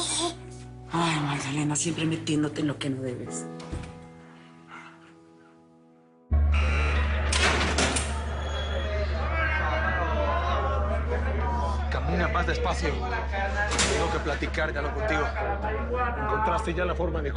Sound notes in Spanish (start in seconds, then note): 8.9 Gritería